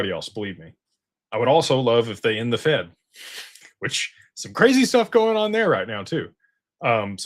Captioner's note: snorts